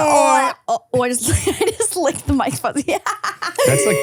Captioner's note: laughs